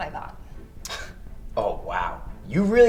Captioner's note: scoffs